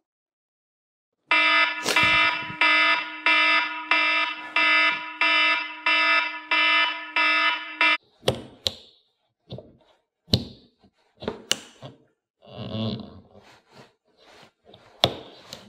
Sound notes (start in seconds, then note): 1.3 phone alarm; 7.6 clothes hanger slides under car door